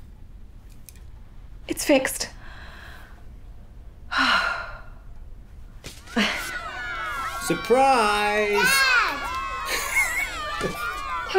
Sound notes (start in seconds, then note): 4.1 sigh; 6.0 cheering; 6.1 laughter; 9.5 cheering